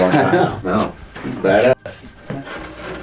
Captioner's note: laughs